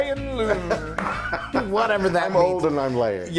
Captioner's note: laugh